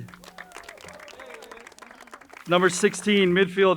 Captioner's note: crowd cheering and applauding